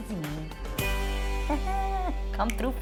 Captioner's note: laughing